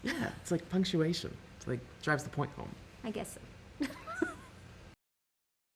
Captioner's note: laughter